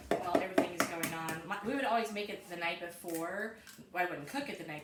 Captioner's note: cracking eggs